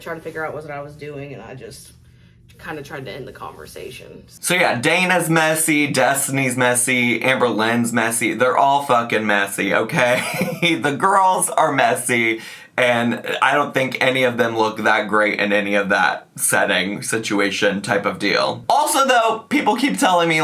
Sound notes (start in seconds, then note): 9.8 laughs